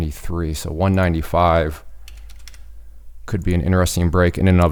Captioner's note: keyboard clicking